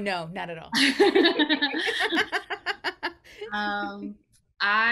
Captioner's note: both laughing